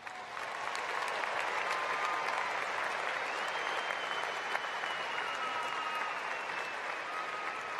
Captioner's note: cheering and applause